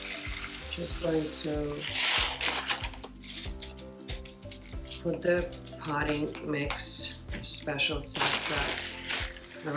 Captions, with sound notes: (rocks clinking) put the potting mix and special substrate